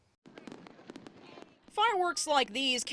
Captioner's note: sound of fireworks